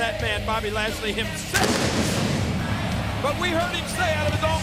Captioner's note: pyro blasting